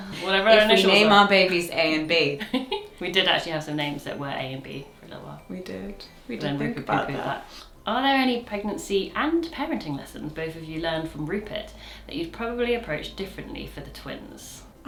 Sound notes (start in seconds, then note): 2.8 laughs